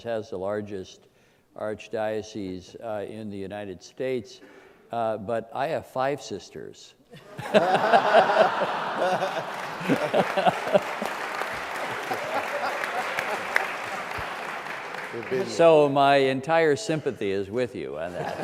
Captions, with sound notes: has the largest archdiocese in the United States but I have five sisters. (laughs) (applause) So my entire sympathy is with you.